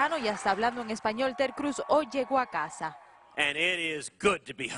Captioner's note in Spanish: aplausos